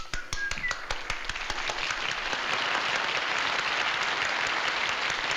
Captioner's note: audience applauding